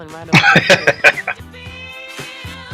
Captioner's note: laughing